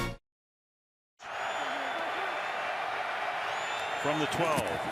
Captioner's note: upbeat music; cheering